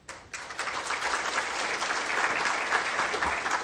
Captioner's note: crowd applauds